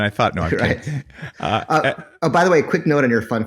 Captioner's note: laughs